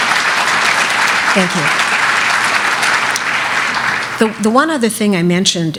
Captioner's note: applause